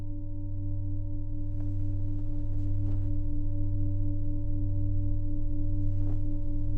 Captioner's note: low humming continues; curtain rustling